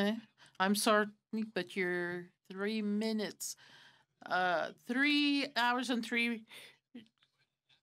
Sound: speaking french

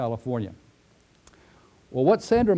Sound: pause

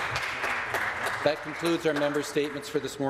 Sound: some Applause

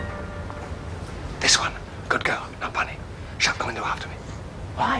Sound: whispers

